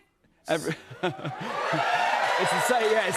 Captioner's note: cheers and applause